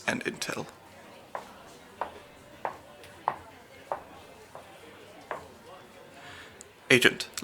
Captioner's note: footsteps